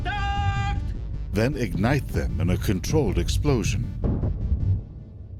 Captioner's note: voiceover